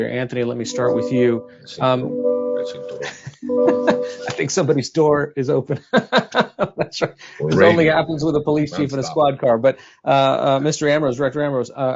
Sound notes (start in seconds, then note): 3.0 laughs